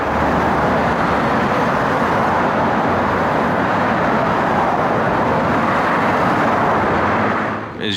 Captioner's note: traffic and street sounds fade out